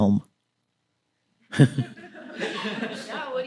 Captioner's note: laughter